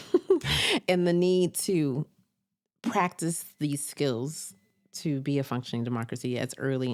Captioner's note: chuckles